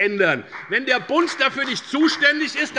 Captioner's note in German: Beifall bei der FDP